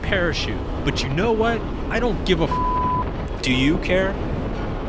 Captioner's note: beep